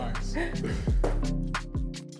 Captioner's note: both laugh